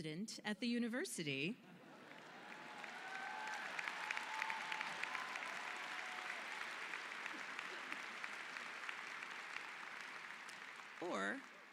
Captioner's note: cheers and applause